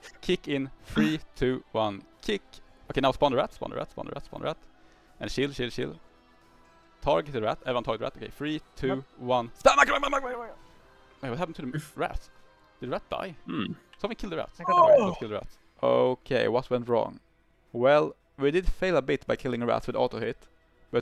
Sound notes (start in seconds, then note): 14.6 ahhh